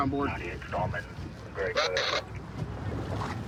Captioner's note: radio communication